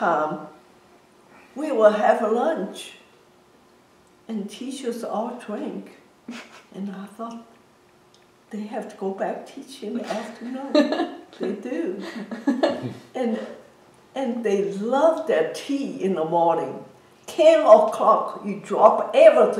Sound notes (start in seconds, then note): 10.1 laughs